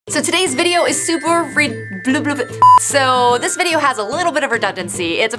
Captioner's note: beep